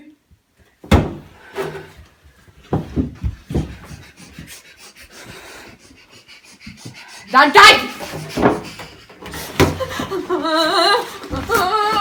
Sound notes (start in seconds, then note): 3.5 heavily breathing